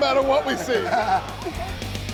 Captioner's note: laughs